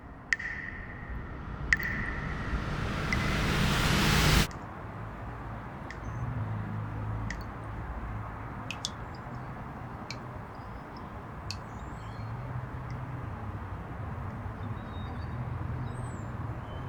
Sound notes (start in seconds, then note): 4.5 water drips